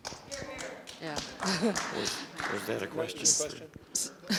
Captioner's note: audience applause